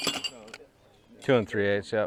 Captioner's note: metals clanking